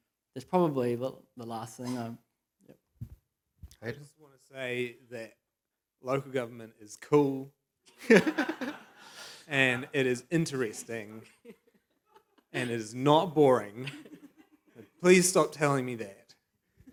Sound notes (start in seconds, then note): 8.0 laughs